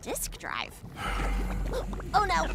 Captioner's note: sigh